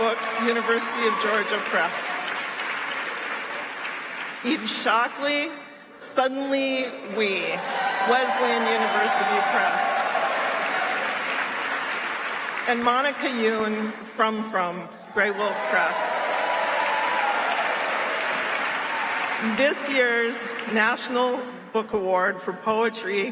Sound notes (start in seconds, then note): 0.0 applause; 7.0 applause; 15.2 applause